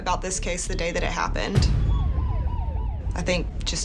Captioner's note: sirens wailing